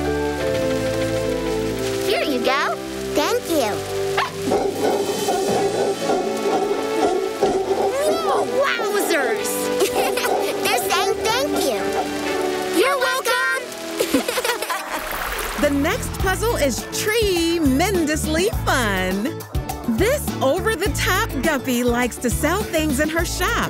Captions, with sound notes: - Here you go. - Thank you. [barking] [monkeys barking] - Whoa. - Wowzers. [laughing] They're saying, "Thank you." You're welcome! [laughing] The next puzzle is tree-mendously fun. This over the top guppy likes to sell things in her shop.